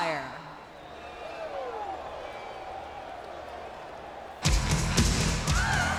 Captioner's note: crowd clamoring; energetic music